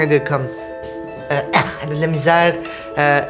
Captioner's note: grunts in pain